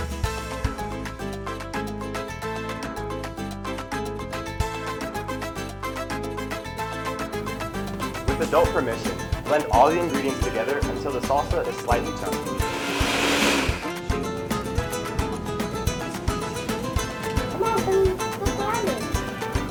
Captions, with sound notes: (upbeat music) - With adult permission, blend all the ingredients together until the salsa is slightly chunky. (blender whirring) (upbeat music) - Come on and try it.